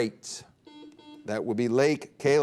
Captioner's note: buzzer beep